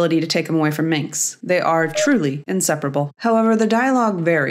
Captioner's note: boo